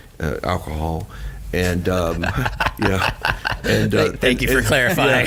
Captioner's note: laughing